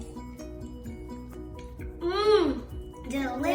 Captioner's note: gulping